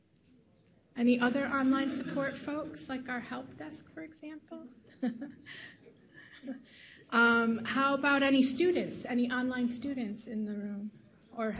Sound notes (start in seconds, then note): 4.9 chuckles softly